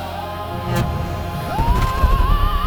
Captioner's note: waves rumbling